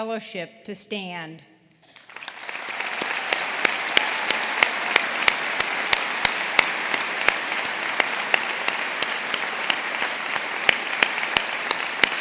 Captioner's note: applause